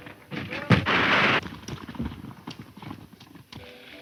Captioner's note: bars crash